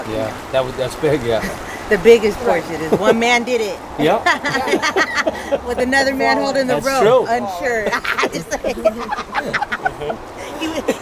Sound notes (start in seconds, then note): 4.0 women chuckling; 9.3 women laughing